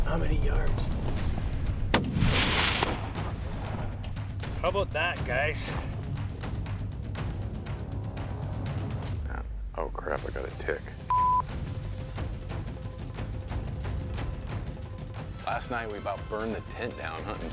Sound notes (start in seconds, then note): 1.8 rifle shot; 11.1 beep